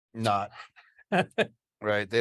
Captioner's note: laughs